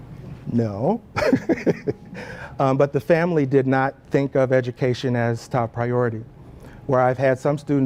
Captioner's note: laugh